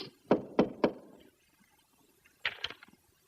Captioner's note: knocking